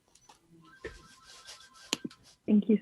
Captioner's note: phone rings